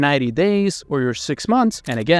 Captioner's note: camera clicking